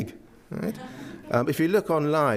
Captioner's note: audience laughs